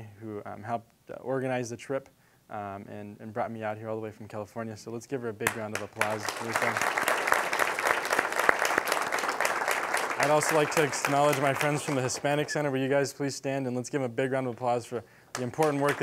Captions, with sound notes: who helped organize the trip and brought me out here all the way from California, so let's give her a big round of applause for everything. (applause) I'd also like acknowledge my friends from the Hispanic Center. Will you guys please stand and let's give a big round of applause for the important work